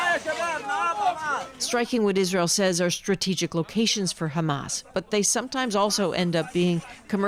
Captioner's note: speaking alternate language